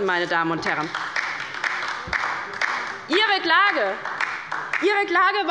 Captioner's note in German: Beifall bei der LINKEN